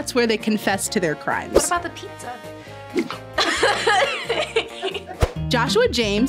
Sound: laughs

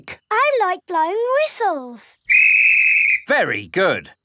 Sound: blows whistle

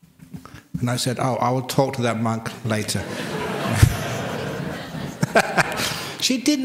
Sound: laughter

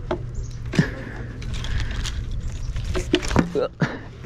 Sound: pants

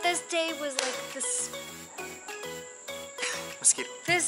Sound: hand slaps

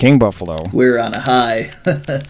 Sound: laughs

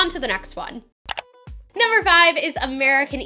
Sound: click

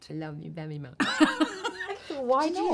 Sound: laughs

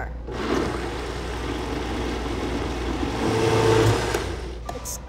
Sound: blender whirring

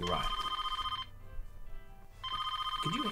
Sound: phone ringing

